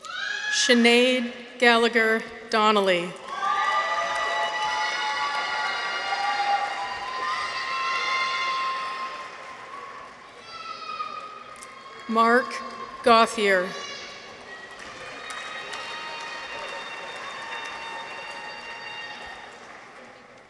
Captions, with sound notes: Sinead Gallagher Donnelly. -(people cheer) -(audience applauds) Mark Gauthier. -(people cheer) -(audience applauds)